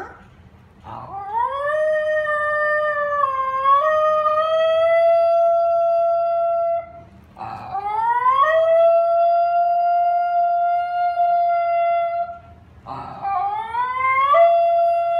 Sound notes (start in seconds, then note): 0.0 Ginger barooing; 4.6 Ginger barooing